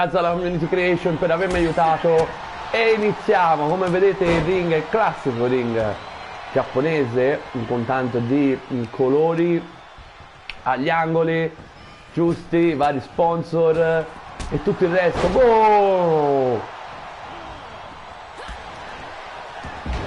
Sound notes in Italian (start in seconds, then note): 14.3 Applauso